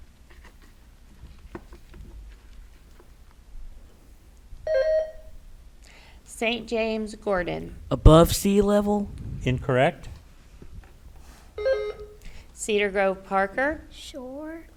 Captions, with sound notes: (bell rings) - St. James, Gordon. - Above sea level? - Incorrect. (bell rings) - Cedar Grove, Parker. - Shore?